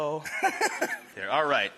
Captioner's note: chef laughs